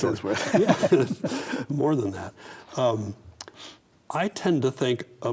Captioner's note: both laugh